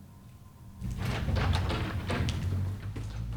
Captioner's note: doors opening